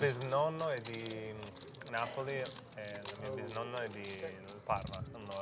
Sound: speaking in Italian

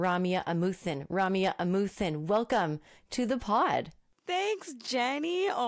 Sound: none

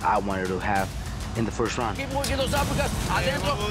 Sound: speaks Spanish

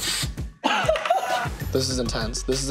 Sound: laughs

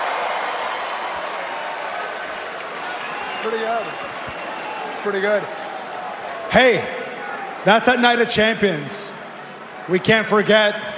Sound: cheering

